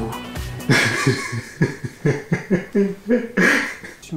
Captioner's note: idiot laugh